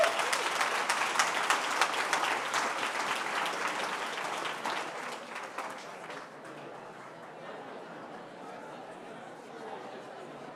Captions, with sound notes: Thank you all for coming out. (Applause) (Cheering)